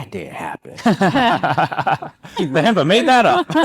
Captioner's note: people laughing